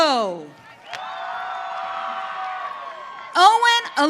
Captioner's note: audience cheering